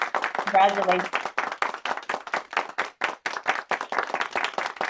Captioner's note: applause